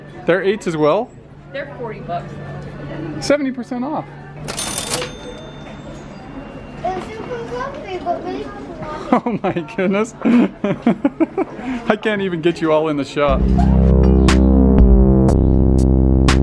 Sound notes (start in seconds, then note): 4.4 cash register dinging; 13.3 sexy music